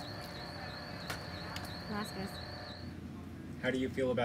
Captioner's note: people chattering